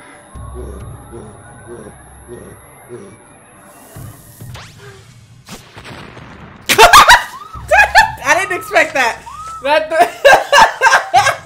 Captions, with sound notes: (sirens blare) (man grunts) (laser beam vibrations) (explosion) (girl screaming) I didn't expect that.(laughing)